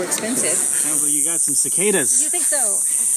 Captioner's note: cicadas buzzing